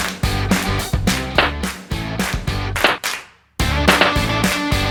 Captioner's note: popping sounds